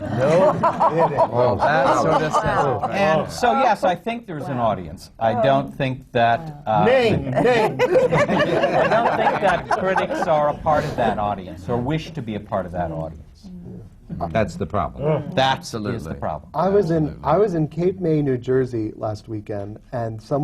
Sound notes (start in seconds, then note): 0.0 laughter; 5.7 laughter